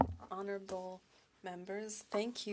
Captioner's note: speaking French